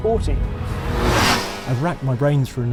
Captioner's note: engine revs